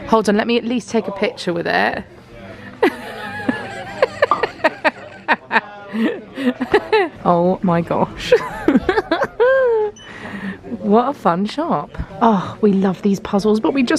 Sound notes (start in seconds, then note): 2.8 laughs